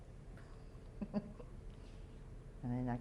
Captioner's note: chuckles